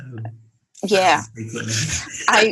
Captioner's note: laughs